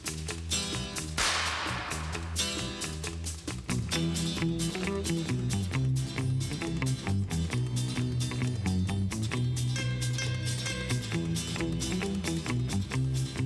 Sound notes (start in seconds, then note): 1.1 whip cracking